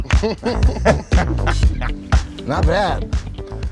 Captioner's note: laughter